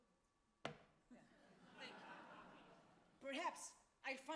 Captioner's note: audience laughs